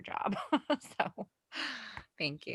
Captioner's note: laughs